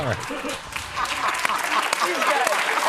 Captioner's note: applause